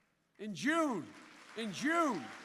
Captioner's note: applause